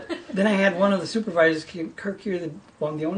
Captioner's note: voiceover